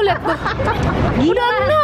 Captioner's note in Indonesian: Ketawa